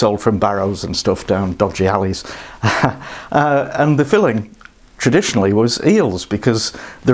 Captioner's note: laughs